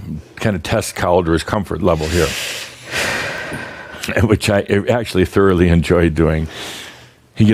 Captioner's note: deeply sighs